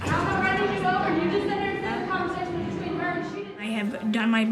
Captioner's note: yelling